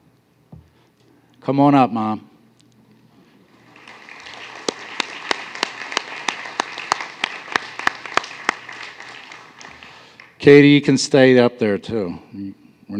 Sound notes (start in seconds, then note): 3.5 applause